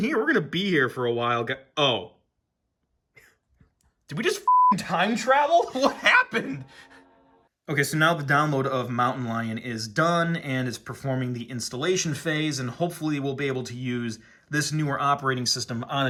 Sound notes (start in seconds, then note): 4.4 beep